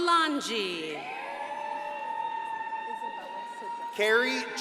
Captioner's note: crowd cheering and applauding